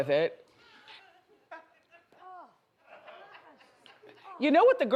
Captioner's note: audience laughs